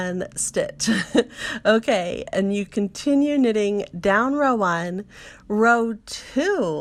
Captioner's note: laughs